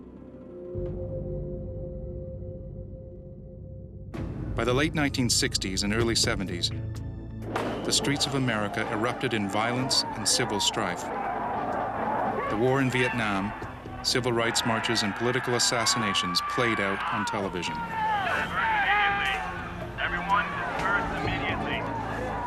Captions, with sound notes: By the late 1960s and early 70s, the streets of America erupted in violence and civil strife. (people yelling) The war in Vietnam, civil rights marches and political assassinations played out on television. (people yelling angrily)